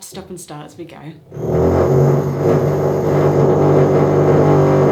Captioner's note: very intense drilling noise